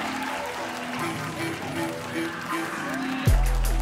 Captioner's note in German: Applaus